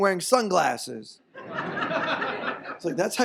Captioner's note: audience laughs